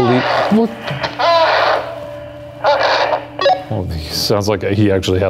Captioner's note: groaning